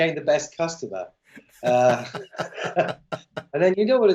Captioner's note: laughter